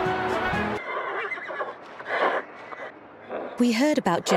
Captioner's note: horse neighing